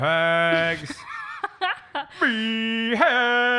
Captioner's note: laughs